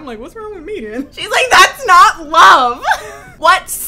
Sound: laughs

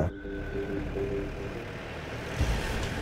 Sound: Jeep arriving

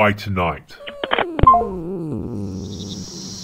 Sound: Broccoli groans in annoyance

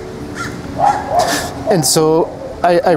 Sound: dog barks

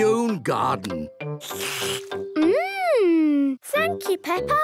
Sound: slurps

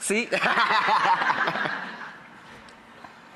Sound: laughs

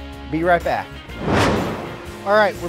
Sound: whooshing

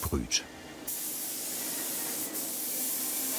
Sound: spraying noises

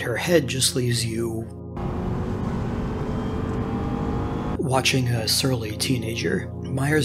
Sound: car droning

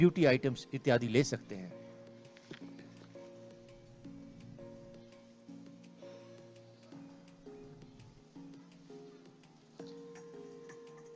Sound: non-english speech

